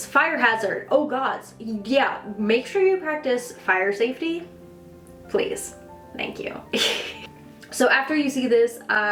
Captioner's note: chuckle